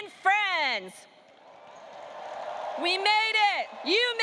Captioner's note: audience cheering and applauding